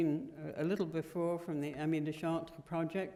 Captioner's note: french